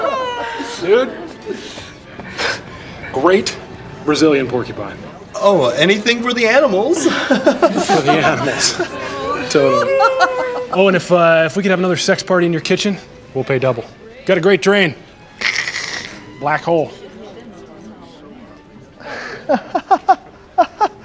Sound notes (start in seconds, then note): 0.0 all chuckling; 7.0 chuckles; 9.4 laughs; 15.4 slurps; 19.0 laughs nervously